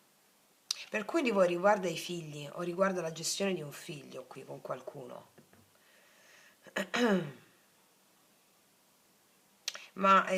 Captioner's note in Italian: schiarire la voce